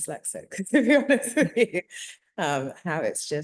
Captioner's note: laughing